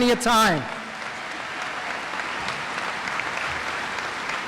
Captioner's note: audience applauds